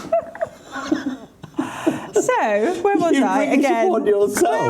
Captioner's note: laughing